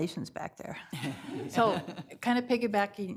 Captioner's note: laughter